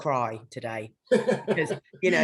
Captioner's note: laughing